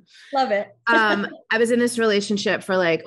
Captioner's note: chuckles